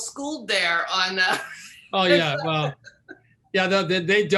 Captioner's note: laughing